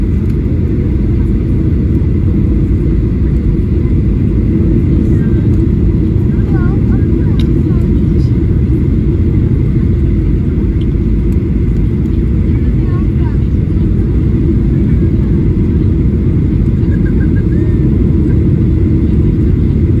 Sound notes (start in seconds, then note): 5.7 chatter; 7.4 airplane Engine